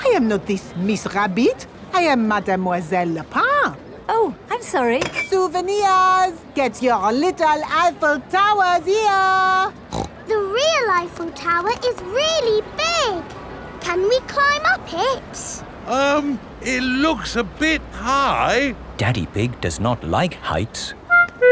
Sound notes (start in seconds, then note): 9.9 snorts